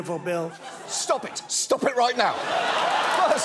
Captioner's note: audience laughing